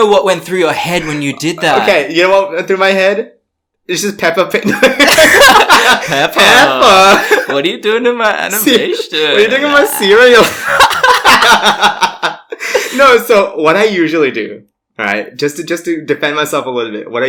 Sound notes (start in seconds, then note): 0.0 laughs; 0.0 stammers; 4.6 laughs; 12.6 laughs